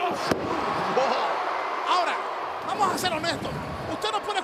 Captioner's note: laugh